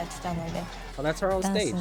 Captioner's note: speaking in foreign language